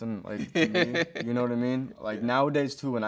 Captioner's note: host chuckles